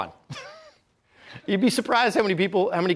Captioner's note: chuckles